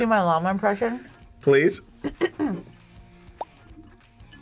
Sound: clears throat

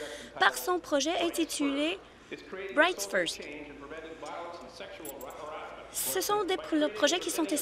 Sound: speaking in French

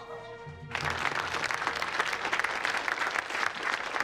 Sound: applauding

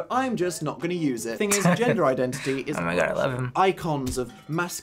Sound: chuckles

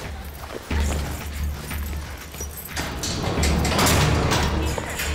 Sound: keys jingling

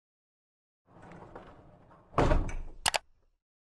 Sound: bump and click

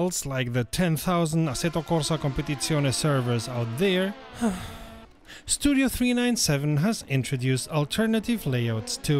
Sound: sighhh

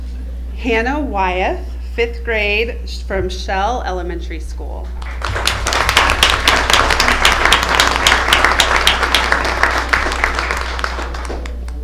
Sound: applause

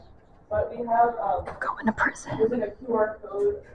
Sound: whispering

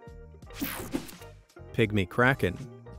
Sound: graphics whooshing

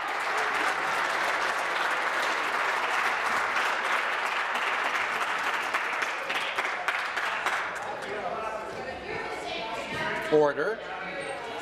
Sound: applause

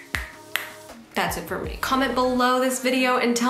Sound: snapping

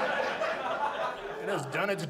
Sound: audience laughs

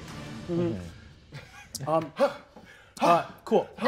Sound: huffs

